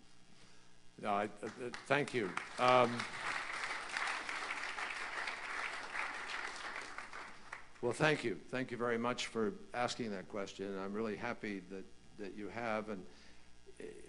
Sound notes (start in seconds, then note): 4.1 applause